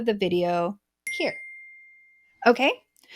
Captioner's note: bell dings